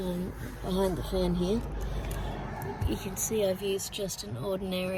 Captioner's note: car goes past